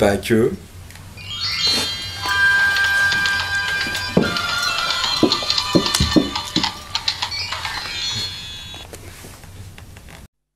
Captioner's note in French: et bruit de sabots